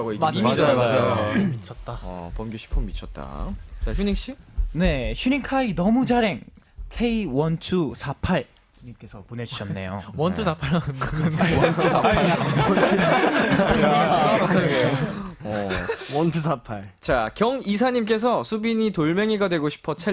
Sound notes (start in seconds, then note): 9.6 in Korean